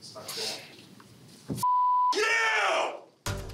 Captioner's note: shouting